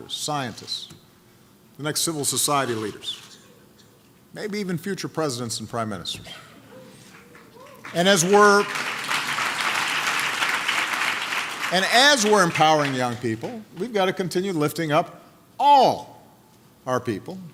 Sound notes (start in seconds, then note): 7.0 applause